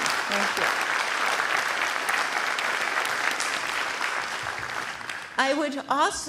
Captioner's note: applause